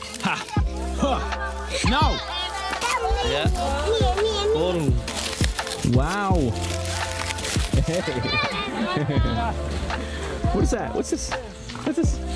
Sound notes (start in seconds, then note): 2.4 speaking Romanian; 6.9 gentle music